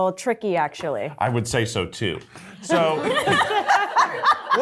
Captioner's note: cast and crew laughing